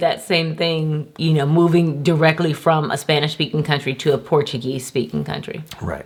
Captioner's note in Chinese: 葡萄牙语